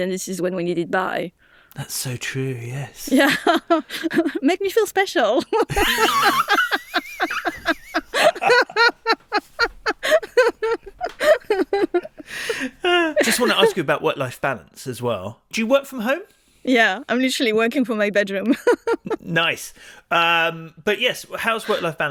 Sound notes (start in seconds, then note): 5.4 laughing; 5.5 chuckles; 18.9 laughs